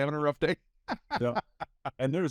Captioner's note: laughing